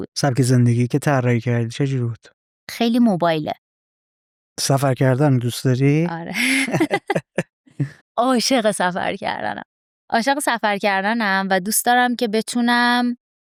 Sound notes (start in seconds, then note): 6.4 laughs